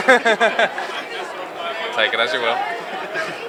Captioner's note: laughs